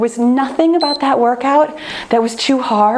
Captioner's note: timer turns off